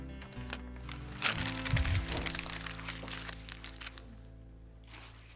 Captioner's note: paper rustling